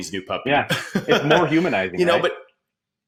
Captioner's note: laughing